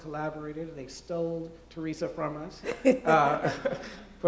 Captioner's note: laughs